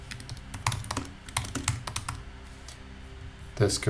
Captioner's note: presenter typing